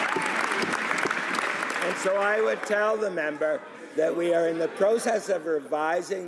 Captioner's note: some Applause